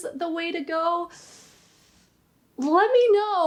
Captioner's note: inhales